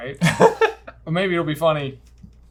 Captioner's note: laughing